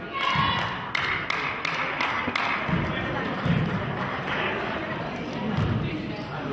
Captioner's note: players cheer; clapping